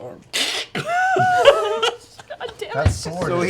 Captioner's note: laughter